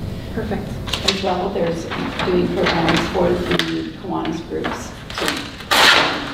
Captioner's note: rustling drowns out speaker